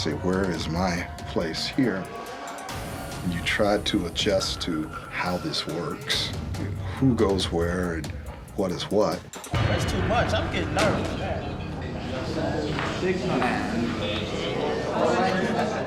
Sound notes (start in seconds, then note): 10.7 chatting